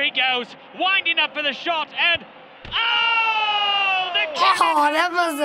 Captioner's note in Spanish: gemido